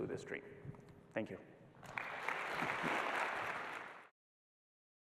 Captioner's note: applause